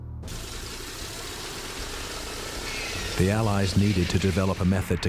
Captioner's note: propellors whirring